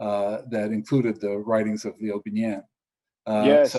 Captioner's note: speaks foreign